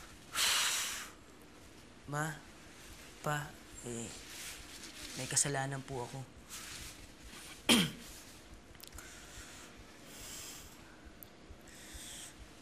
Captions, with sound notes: [exhales deeply] Mom, Dad... I did something wrong. [clears throat] [sighs]